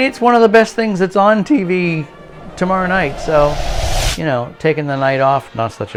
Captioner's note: woosh!